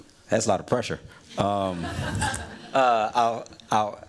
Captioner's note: laughter